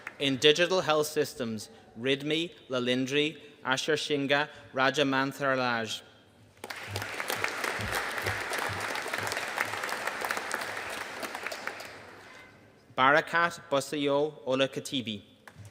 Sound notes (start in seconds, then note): 6.6 audience applauding